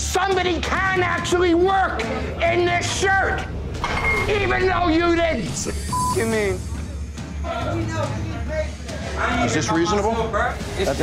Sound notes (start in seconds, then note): 5.8 beep